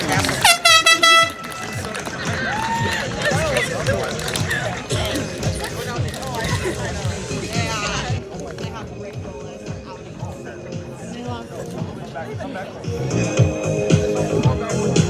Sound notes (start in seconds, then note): 5.4 applause